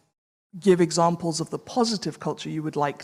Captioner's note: none